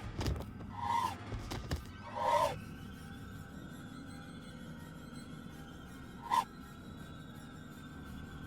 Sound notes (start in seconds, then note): 1.3 air whooshing; 1.3 ominous music